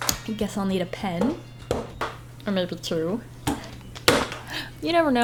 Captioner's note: slaps desk